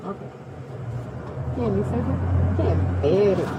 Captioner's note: speaking in foreign language